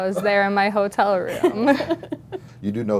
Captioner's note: laugh